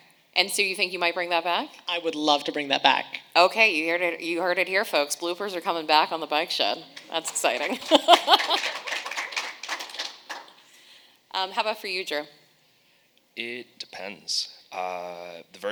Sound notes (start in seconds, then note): 6.9 audience applauds